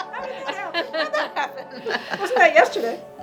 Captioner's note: laughing